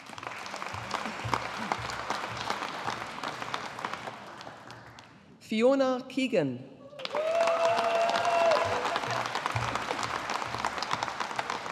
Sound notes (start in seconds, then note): 0.0 audience applauding; 7.0 audience applauding